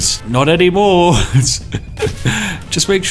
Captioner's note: evil Laughter